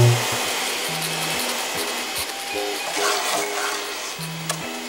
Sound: whooshing

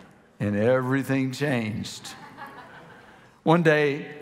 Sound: congregation laughing

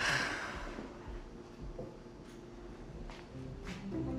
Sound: sighs; bright music

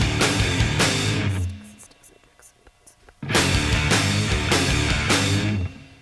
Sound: woman whisper-repeating

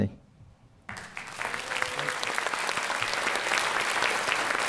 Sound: applause

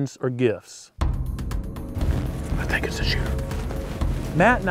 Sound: whispering

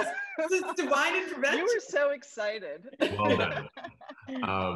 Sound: laughs

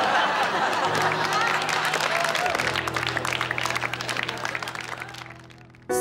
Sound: applauding

